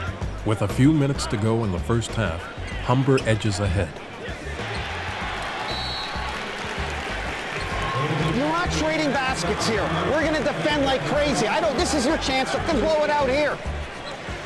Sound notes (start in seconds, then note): 6.0 applause